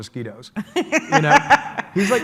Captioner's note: laughs